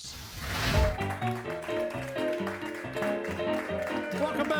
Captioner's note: honky-tonk piano playing; audience clapping